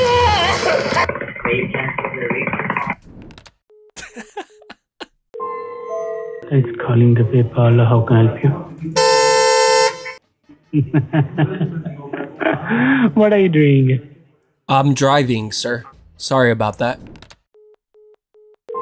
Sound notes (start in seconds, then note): 0.3 panicking pressing buttons; 8.9 car Horn; 10.6 laughs